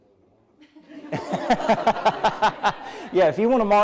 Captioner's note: laughter